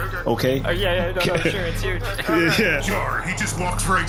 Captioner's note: laughing